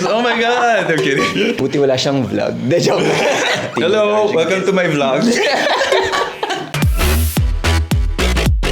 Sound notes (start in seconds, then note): 2.7 laughs